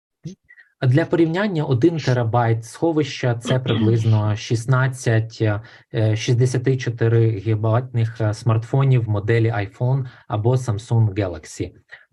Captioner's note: foreign Language Spoken